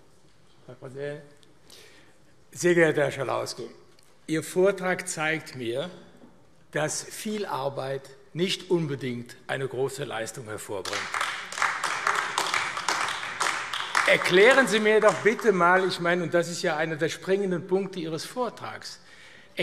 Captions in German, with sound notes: Herr Präsident! Sehr geehrter Herr Schalauske, Ihr Vortrag zeigt mir, dass viel Arbeit nicht unbedingt eine große Leistung hervorbringt. [Beifall AfD] Erklären Sie mir doch bitte einmal - das ist einer der springenden Punkte Ihres Vortrags -,